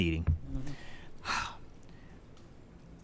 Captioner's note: sighs